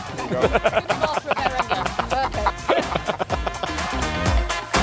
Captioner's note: laughter